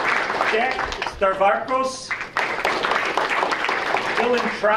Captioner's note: audience applauding